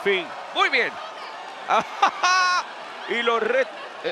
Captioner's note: laugh